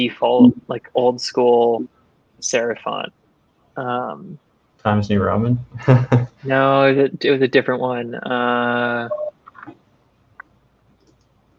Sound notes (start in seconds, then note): 5.7 laughing